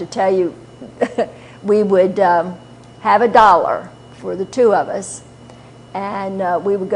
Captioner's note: chuckle